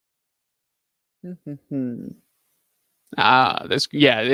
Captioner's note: vocalizing